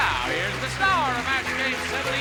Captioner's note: applause